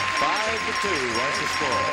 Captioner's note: chatter